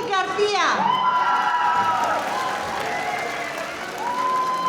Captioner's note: audience applauding